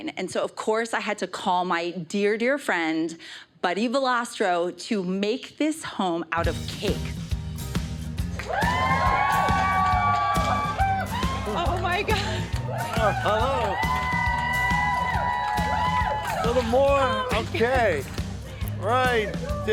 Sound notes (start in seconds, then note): 7.2 upbeat music; 8.3 audience cheers and applauds; 13.9 laughs